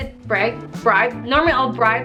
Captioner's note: trying to speak English